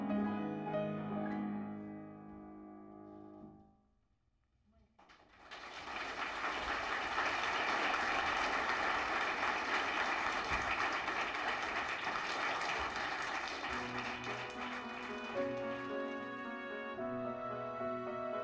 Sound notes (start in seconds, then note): 5.2 applause; 13.8 orchestral music